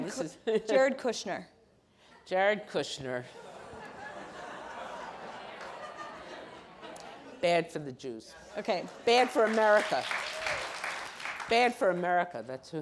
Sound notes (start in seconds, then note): 3.4 audience laughs